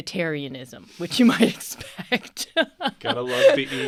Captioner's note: both laughing